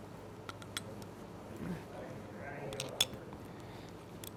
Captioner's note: metal clicking